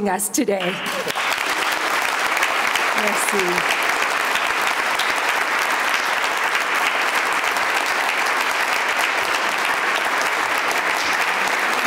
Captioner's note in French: Applaudissements